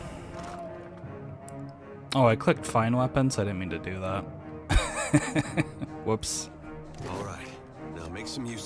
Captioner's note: laughs